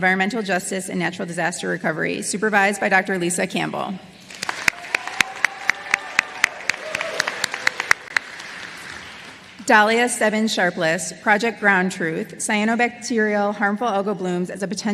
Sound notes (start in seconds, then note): 8.1 applause